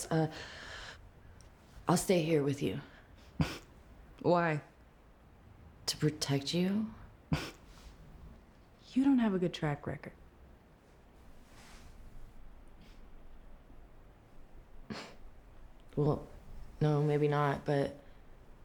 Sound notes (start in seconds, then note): 3.2 scoffs; 7.2 scoffs